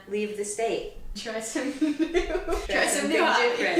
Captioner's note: laughing